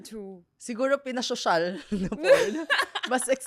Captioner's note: laughs